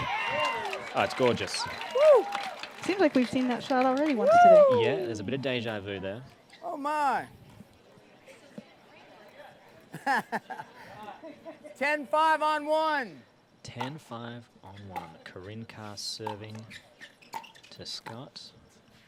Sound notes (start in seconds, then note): 0.0 applause; 9.9 laughs